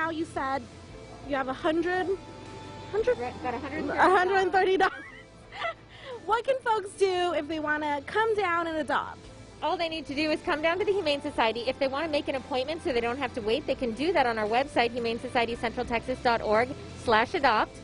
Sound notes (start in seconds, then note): 4.4 laughs